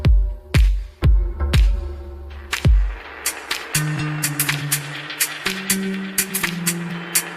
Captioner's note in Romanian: Aplauze